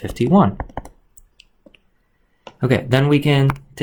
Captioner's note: keyboard clicks